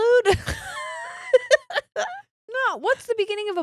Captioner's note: laughing